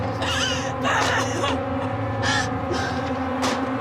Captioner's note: crying; dramatic music